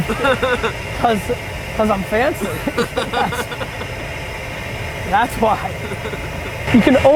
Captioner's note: laughs